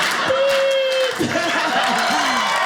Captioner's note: audience laughing